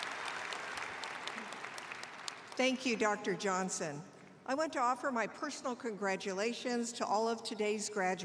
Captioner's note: cheers and applause